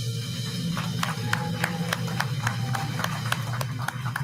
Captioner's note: audience applauding